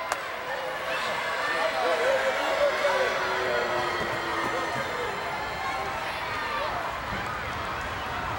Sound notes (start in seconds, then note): 3.5 crowd boos